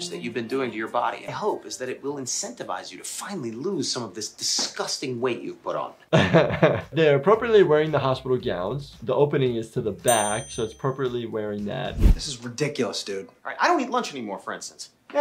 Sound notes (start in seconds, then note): 6.1 laughs